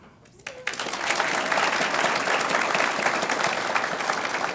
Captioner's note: audience applauds